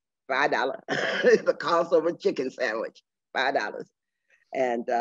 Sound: laughing

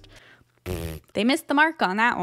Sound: blows raspberry

